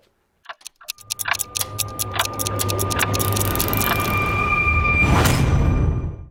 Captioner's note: ticking clock